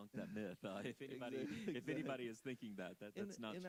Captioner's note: chuckling